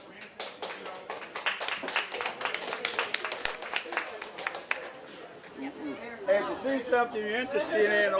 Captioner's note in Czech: Potlesk